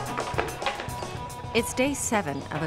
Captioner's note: hammering